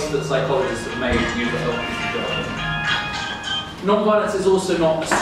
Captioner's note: phone rings